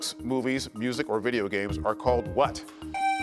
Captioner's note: buzzer beeps